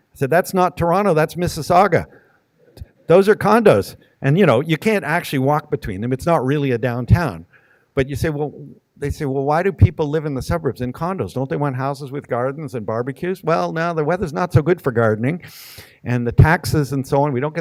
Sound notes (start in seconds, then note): none